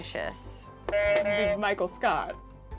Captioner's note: buzzer buzzes